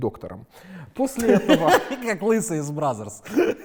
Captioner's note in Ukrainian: сміється